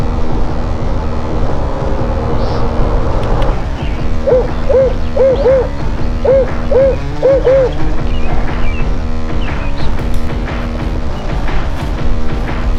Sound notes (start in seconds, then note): 3.6 animal call